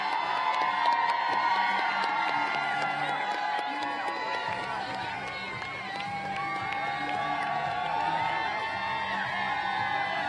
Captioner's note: applause